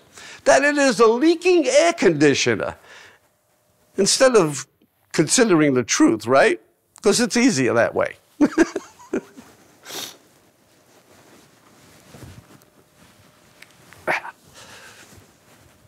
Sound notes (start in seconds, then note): 8.4 laughing